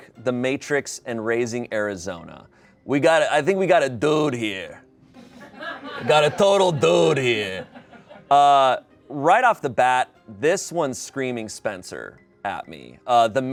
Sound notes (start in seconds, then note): 0.0 whimsical orchestra music; 5.2 people laugh